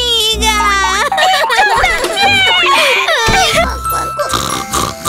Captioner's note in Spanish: Llanto; Música de cuna; Ronquidos